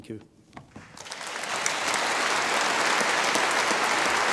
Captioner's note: audience applause